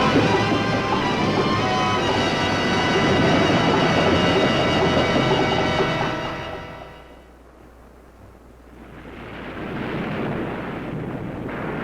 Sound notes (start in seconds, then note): 2.9 waves roaring; 8.8 waves crashing